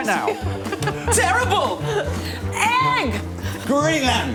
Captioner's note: laughter